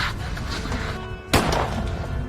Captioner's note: single Gunshot